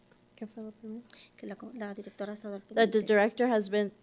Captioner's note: interpreter and speaking Spanish